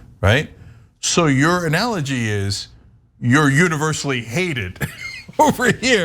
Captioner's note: laugh